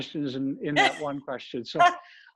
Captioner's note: laughs